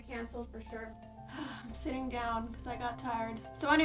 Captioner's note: sighs